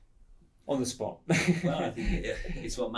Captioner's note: laughs